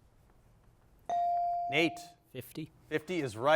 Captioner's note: bell chiming